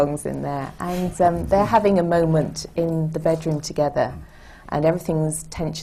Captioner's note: laughs